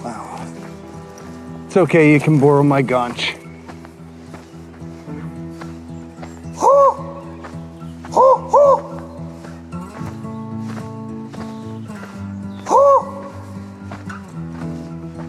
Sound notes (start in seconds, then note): 7.9 Rick imitates bird calling